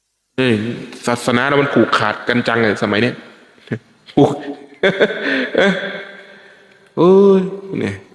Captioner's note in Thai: เสียงหัวเราะ